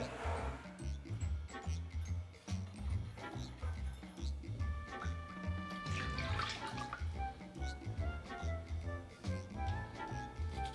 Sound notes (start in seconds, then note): 5.5 liquid pouring